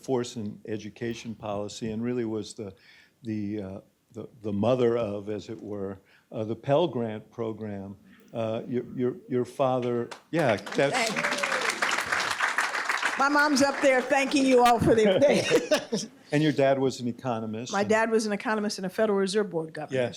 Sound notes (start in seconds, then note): 9.7 applause; 14.8 laughter